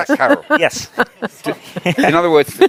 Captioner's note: laughing